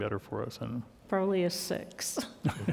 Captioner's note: chuckling